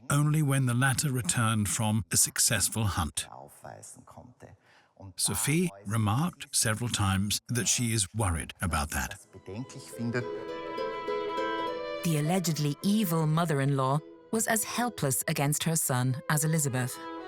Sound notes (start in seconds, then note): 9.3 speaks in foreign language; 9.7 elegant classical music